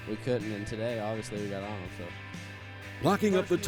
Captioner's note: voiceover